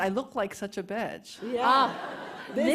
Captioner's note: laughter